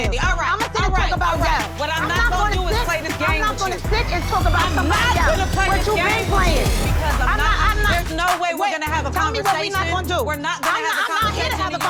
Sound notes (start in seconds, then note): 5.5 hand slaps